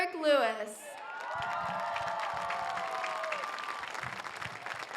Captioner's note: audience cheers